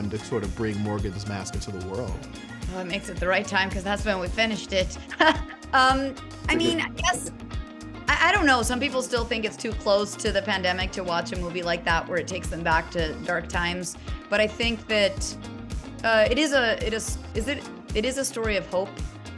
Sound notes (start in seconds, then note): 6.5 laughs